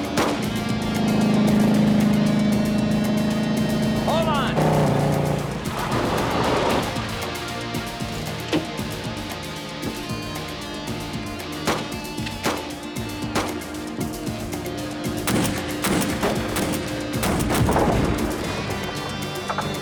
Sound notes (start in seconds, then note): 11.6 gunshots; 16.8 bullets ricocheting